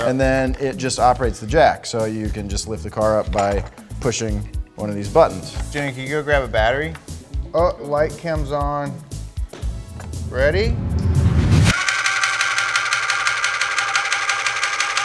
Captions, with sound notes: And then it just operates the jack. So you can just lift the car up by pushing one of these buttons. - Jimmy, can you go grab a battery? Oh, light cam's on. Ready? (jack whirring)